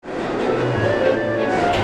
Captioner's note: train bustling; serene music